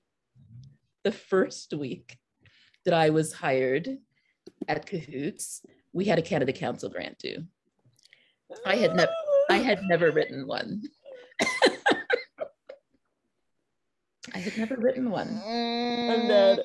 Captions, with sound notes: the first week that I was hired at Cahoots, we had a Canada Council grant too. I had never written one. (all laughing) I had never written one.